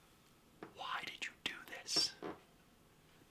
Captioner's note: furious whisper